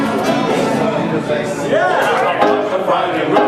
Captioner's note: crowd chattering